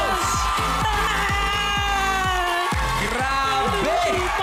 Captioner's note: melai fake crying